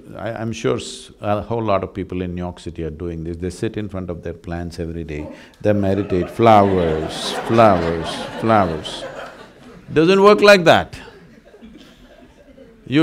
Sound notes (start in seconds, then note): 9.0 laughter